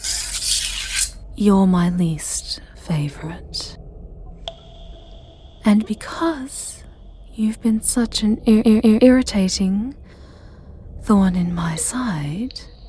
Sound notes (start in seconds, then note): 1.2 her voice disturbingly flat